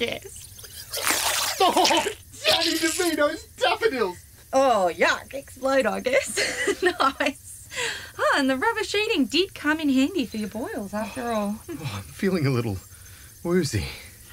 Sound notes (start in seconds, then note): 6.0 laughs